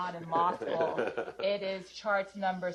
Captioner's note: chuckle